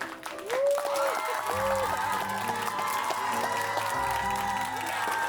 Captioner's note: audience applauds